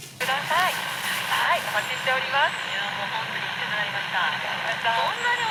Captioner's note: laughs